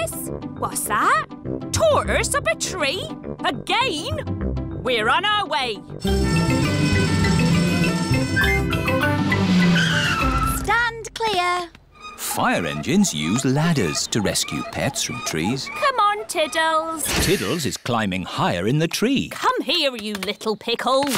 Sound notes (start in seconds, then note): 6.1 siren wailing